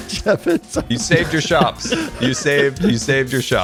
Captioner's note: group laughs